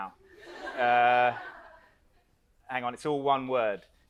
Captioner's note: audience laughs